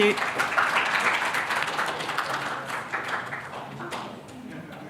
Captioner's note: audience applauding